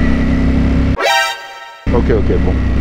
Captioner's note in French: bruit surprise mgs